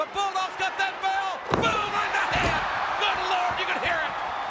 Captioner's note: crowd cheering